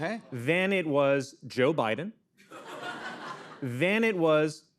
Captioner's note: laughter